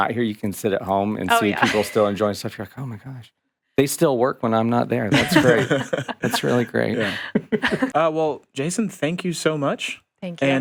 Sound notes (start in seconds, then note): 1.2 chuckles; 4.6 podcasters laughing